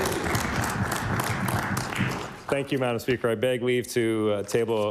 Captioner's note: applause